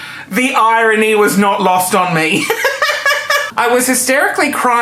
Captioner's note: laughing